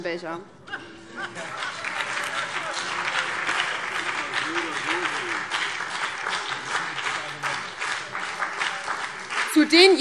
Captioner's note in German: Heiterkeit und Beifall BÜNDNIS 90/DIE GRÜNEN und DIE LINKE